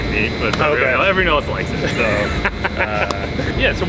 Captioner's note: laughs